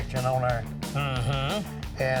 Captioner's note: mike murmurs approval